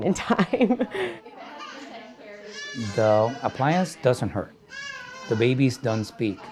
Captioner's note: laugh